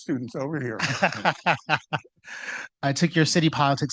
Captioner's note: laughing